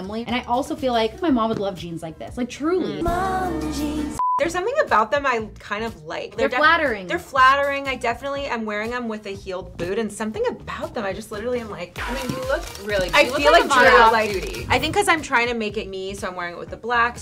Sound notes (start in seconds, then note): 4.1 beep; 12.0 cameras clicking